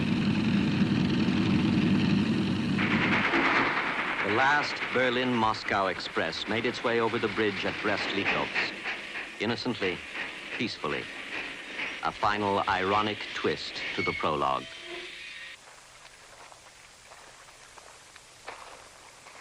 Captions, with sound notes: (airplane engines rumbling) (train rattling) The last Berlin-Moscow Express made its way over the bridge at Brest-Litovsk, innocently, peacefully, a final, ironic twist to the prologue. (footsteps trudging)